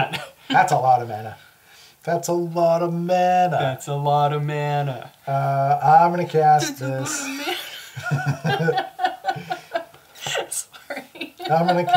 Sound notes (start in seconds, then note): 9.6 laughs